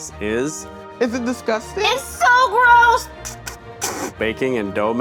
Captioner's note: spitting